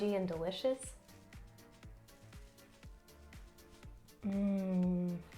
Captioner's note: makes yummy sounds